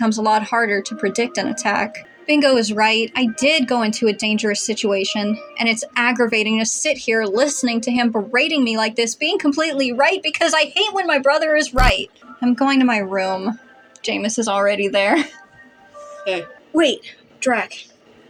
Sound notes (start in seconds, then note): 15.2 chuckle